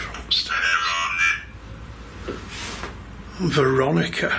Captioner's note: device vocalising